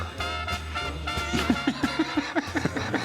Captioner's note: laughter